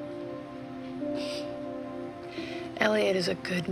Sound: sniffles

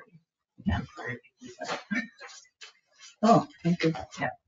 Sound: speaks distantly

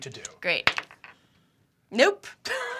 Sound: die clatters

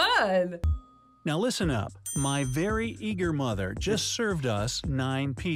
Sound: voice-over

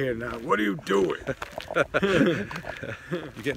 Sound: laughs

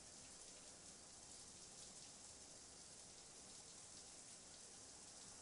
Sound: water running in shower

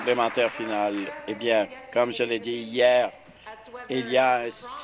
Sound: applause

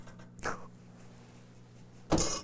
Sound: laughing

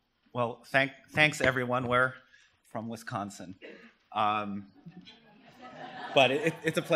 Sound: laughter

